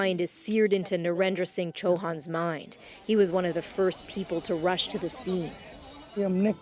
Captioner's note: speaking alternate language